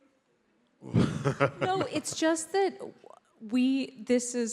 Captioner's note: laughs